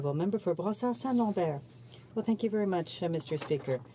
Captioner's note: speaking french